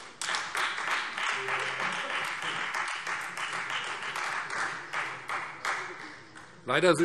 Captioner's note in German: Beifall Freie Demokraten